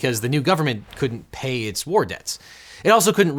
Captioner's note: air whooshing